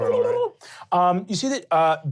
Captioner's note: glottal chatter